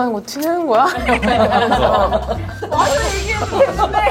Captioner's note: haha